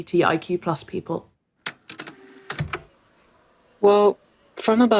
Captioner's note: the tape recorder clicks on